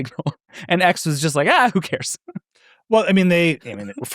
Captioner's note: laughs